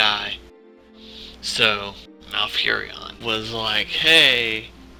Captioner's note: deep breath